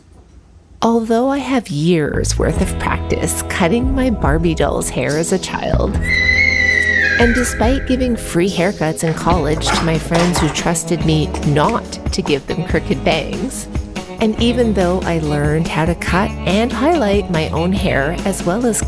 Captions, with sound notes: Although I have years worth of practice cutting my Barbie doll's hair as a child, [scream] and despite giving free haircuts in college to my friends who trusted me NOT to give them crooked bangs, and even though I learned how to cut and highlight my own hair as well as